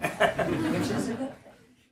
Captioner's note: audience laughs